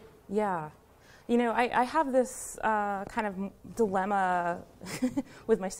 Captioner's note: laughs